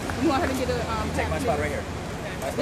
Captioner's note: applause